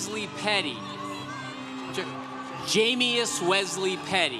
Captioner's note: congregation cheering